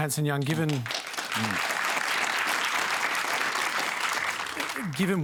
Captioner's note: applause